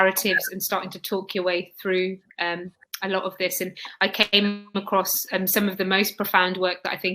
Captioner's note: erm